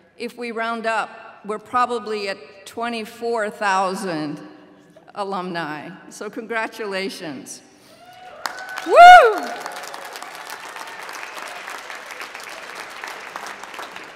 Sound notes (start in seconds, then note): 7.9 cheering